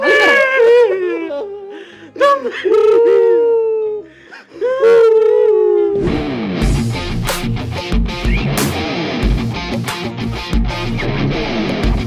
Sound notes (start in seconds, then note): 4.8 howling wolves